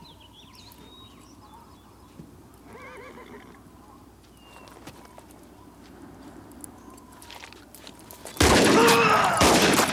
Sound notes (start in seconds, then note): 2.7 horse neighs; 8.4 gun fires; 8.7 town member groans